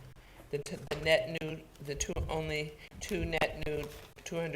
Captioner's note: stuttering